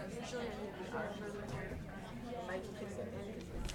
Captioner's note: people chattering